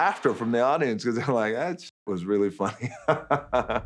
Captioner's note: laughing